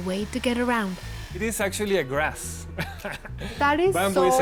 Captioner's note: laughs